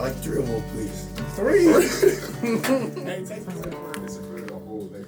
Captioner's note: teammates laughing